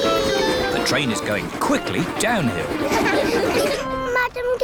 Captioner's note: laughter